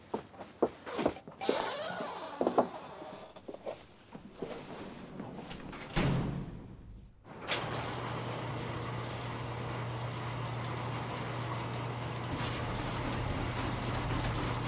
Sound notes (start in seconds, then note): 1.4 squeak; 5.4 door shuts; 7.4 shutters open